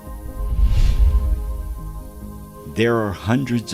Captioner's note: air whooshing